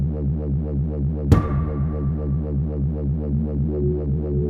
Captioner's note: sound of impact